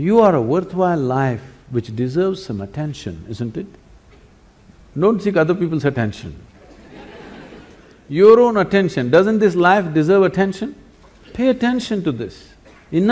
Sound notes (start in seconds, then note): 6.6 laughter